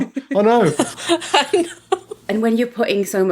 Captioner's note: both laughing